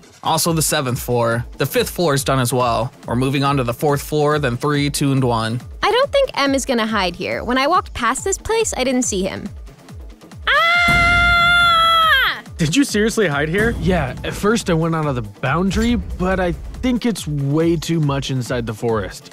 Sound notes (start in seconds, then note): 10.4 surprised sound